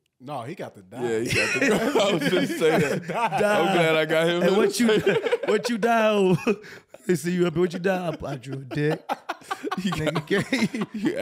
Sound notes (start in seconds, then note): 1.8 laughs; 4.6 laughing; 7.6 chuckles; 9.1 laughing